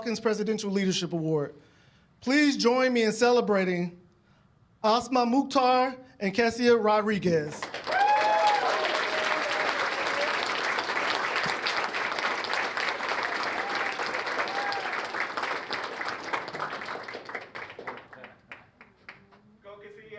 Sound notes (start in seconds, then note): 8.8 cheers and applause